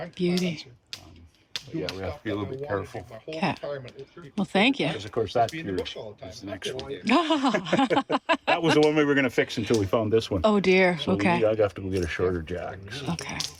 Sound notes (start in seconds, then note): 7.0 laughs